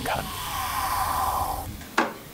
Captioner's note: handicraft noises